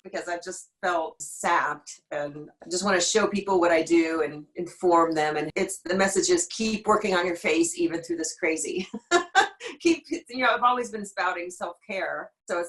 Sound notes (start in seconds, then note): 9.3 laughing